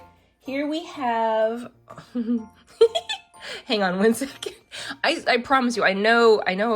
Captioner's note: laughs